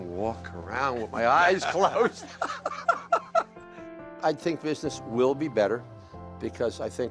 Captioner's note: laughs